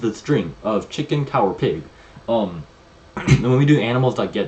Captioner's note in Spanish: se aclara la garganta